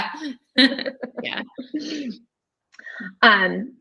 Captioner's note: laughing